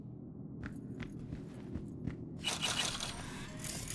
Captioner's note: footsteps